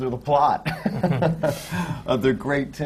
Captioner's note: laughter